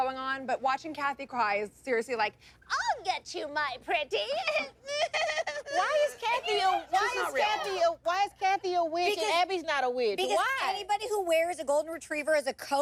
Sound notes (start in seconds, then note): 4.4 mock sobbing